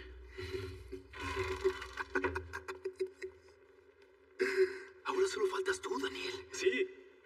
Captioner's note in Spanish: Ríe